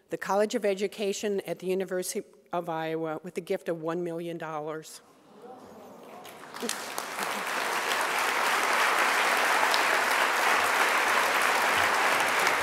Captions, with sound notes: the College of Education at the University of Iowa with a gift of $1 million. (audience applause)